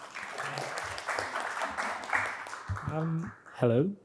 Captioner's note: audience clapping